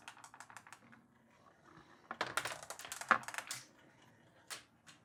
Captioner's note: marble rolls